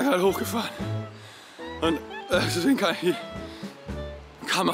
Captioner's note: gasps